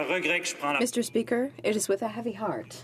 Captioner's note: speaking French